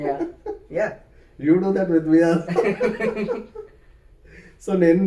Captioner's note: laughs